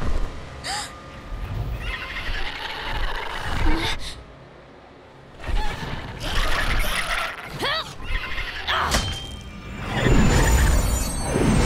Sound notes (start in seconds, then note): 0.2 gasping; 1.6 squawking; 7.3 grunting